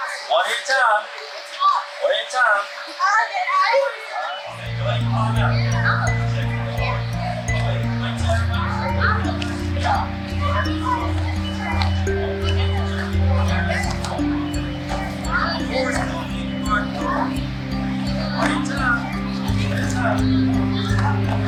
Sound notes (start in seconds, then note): 2.9 children chattering; 4.8 mellow music